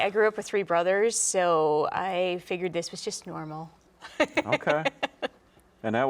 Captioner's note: laughing